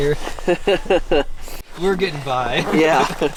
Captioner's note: laughing